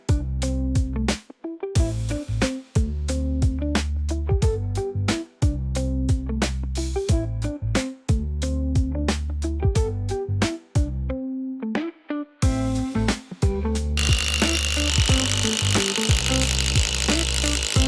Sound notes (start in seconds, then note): 14.0 drill whirring